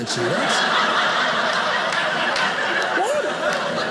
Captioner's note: audience laughing